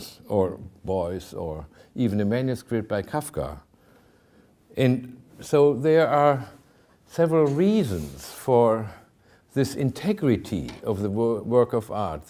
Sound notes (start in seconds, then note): none